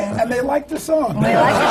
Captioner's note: laughter